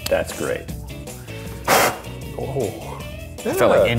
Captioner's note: blowing